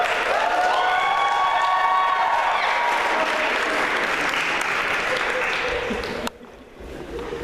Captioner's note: applause